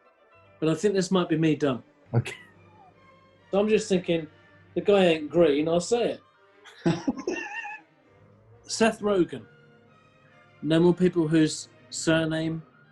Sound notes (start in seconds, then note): 2.1 laughs; 6.7 laughing